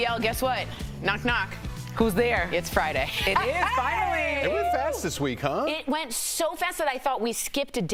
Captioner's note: laughter